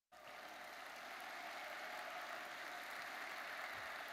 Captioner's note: audience applauds